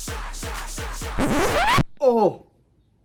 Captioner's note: record scratch